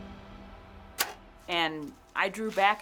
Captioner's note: bowstring thuds